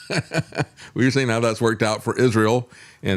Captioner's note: laughs